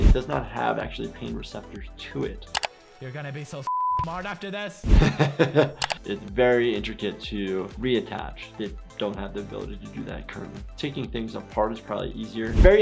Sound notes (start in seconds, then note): 3.6 beep; 4.9 laughter